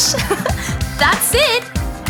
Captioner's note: narrator giggling